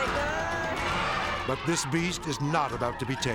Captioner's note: elephant trumpeting